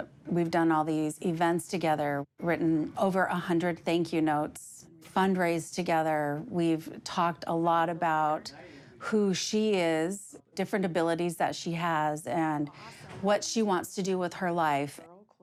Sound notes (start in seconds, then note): none